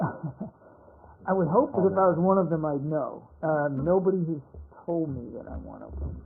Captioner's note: laughter